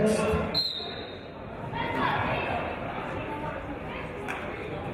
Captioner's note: referee's whistle